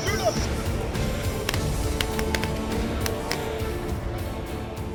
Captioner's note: gun shots